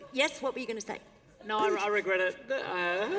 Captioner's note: laughter